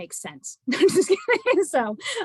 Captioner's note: laughter